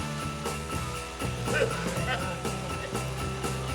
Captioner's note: Eddie vomits